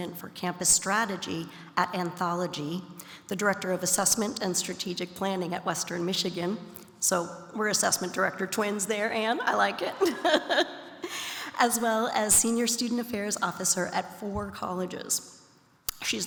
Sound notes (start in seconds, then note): 10.0 laughs